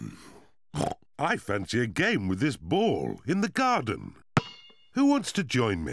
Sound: oinks

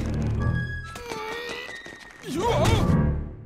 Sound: grunting

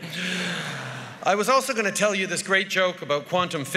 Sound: laughter

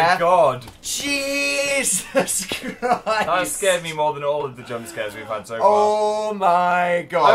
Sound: laughing

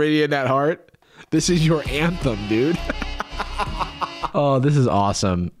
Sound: laughs

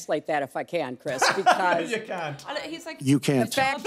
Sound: laughs

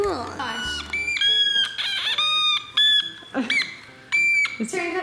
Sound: squeaking

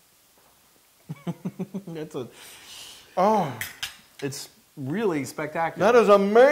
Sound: laugh

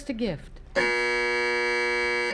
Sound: buzzer sounds

